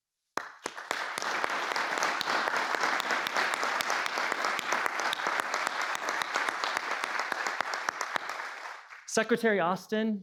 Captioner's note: applause